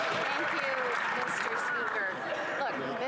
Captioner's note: some Applause